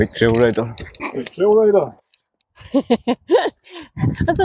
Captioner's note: laughter